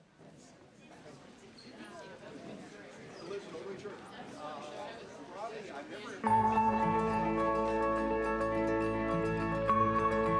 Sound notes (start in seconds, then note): 1.1 indistinct chatter; 6.2 gentle instrumental music